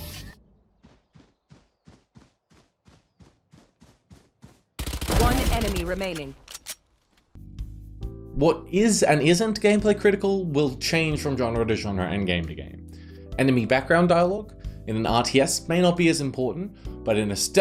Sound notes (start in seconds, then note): 0.6 faint footstep sounds; 4.8 gunshots